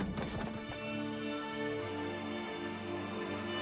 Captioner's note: door opens